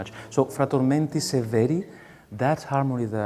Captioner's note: speaking in a foreign language